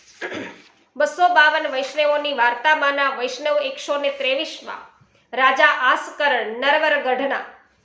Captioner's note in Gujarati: ગળું સાફ કરે છે